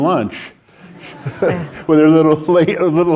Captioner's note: audience laughing